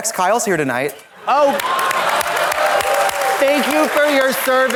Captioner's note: Katya claps